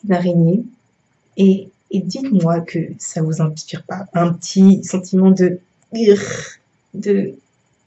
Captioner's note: uggh